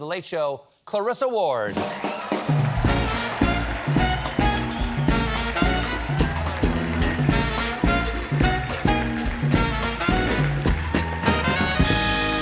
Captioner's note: applause